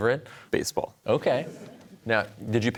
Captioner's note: audience laughter